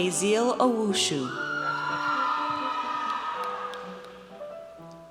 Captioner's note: audience cheers